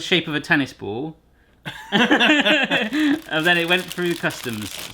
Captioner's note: laughter